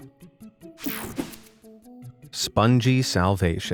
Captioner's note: slides swooshing